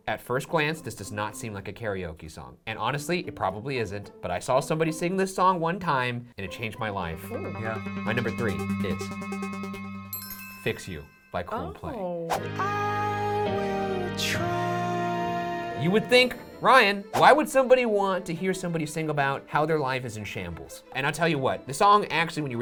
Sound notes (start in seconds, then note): 7.1 suspenseful music; 10.0 chimes dinging